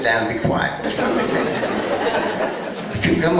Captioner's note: laughter